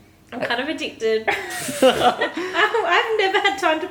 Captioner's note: laughter